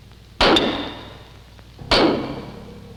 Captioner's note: banging